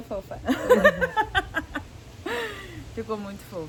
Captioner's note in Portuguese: Everyone laughing